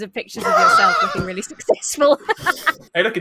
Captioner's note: laughs